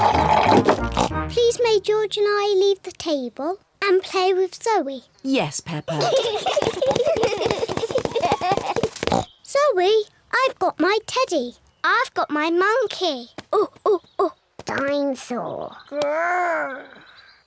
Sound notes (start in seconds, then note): 5.9 all giggle; 8.8 oink; 13.2 imitates monkey chatter